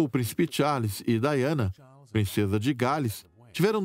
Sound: voiceover

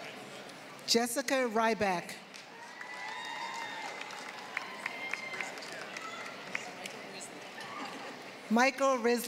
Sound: applause; applause

